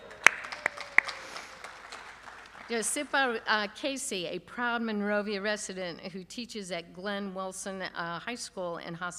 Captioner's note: applause